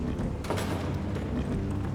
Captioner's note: door closes